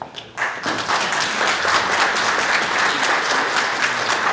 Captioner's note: audience applauds